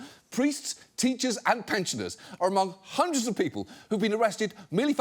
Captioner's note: none